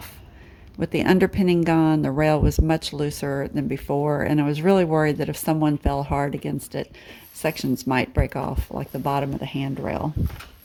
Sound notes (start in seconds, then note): none